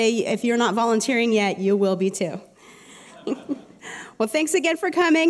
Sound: laughter

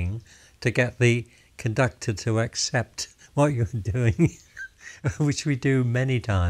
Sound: laughs

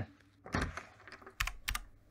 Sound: door open

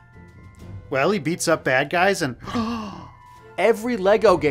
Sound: gasp

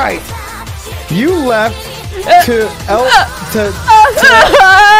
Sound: begins to cry; crying and laughing

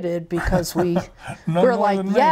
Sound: laughs

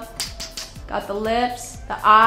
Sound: kiss smacking

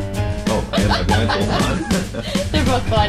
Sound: laughs

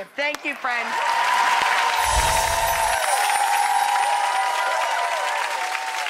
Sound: audience cheers and claps

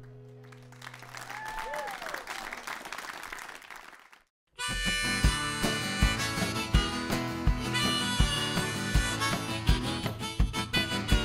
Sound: applause

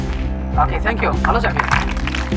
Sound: speaks Somali

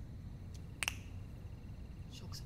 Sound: snaps

